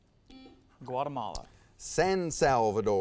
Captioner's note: buzzer sounds